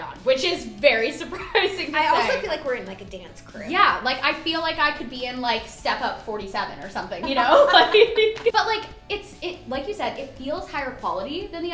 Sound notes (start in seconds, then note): 7.2 laughter